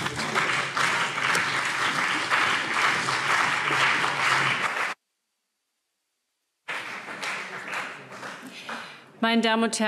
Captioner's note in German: Beifall CDU und BÜNDNIS 90/DIE GRÜNEN